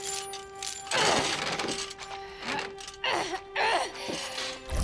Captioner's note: grunting